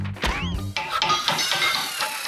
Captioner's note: hammering and metal clanging